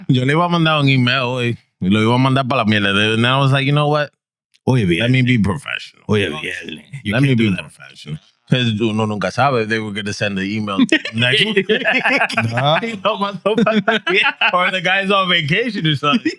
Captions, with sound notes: And I was like, you know what? Let me be professional. (Speaking In Foreign Language) You can't be that professional. Because they were gonna send the email. (Laughing) Or the guy's on vacation or something.